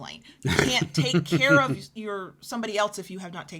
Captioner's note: chuckles